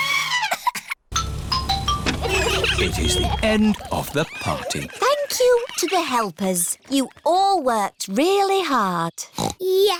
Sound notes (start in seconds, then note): 0.2 trumpets; 1.1 horns honking